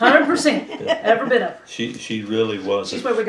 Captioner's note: laughter